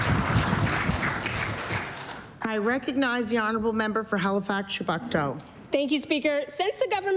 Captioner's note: applause